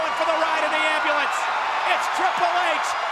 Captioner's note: audience cheers